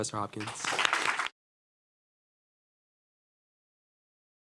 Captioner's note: audience applauding